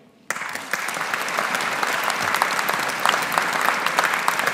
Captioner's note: audience applauding